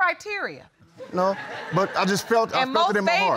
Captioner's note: audience laughs